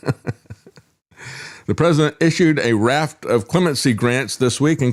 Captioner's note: laughs